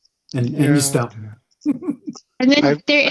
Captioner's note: speaker laughing